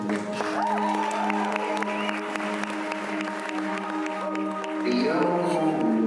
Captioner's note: audience clapping and cheering